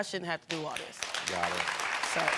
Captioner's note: audience applauding